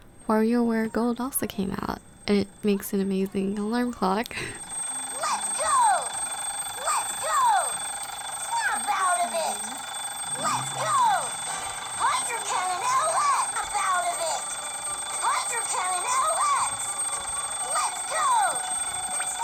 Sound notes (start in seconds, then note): 4.5 alarm ringing sounds